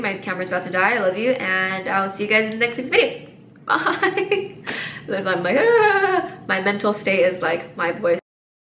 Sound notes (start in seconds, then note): 3.7 laughing